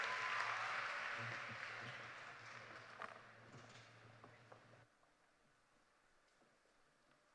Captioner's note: cheers and applause